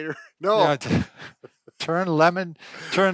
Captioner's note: laughter